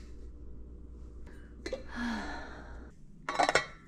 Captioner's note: sigh